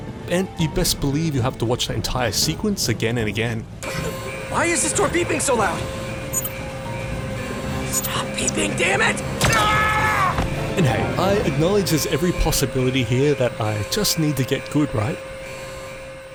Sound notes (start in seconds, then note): 3.8 door beeps; 9.4 guard screams